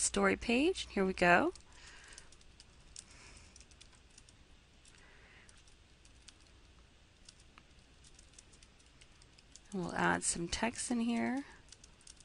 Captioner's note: typing